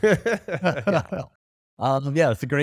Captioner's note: men laughing